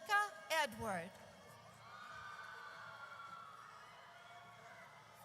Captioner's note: audience cheers